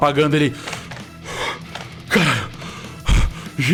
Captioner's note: heavy breathing